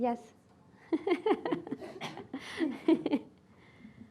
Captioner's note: laughing